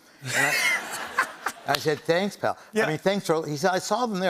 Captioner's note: laughter